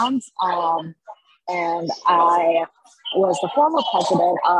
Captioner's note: crowd chattering